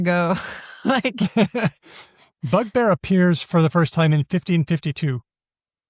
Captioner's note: laughs